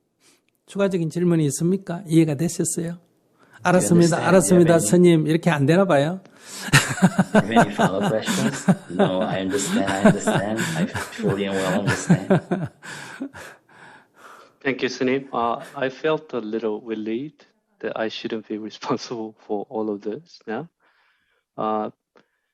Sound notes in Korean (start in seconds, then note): 11.7 스님 웃음